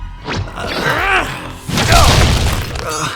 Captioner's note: occasional grunts